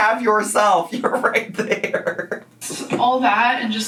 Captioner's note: laughs